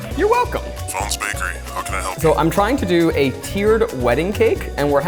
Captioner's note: man's Voice On Phone